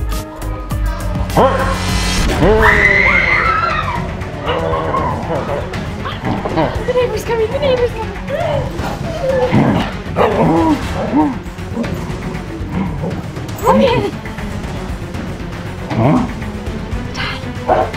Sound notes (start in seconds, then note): 2.4 screaming; 8.6 dog growling